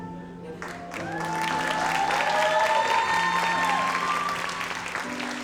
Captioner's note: audience applauds